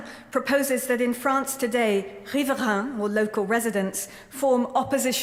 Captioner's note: french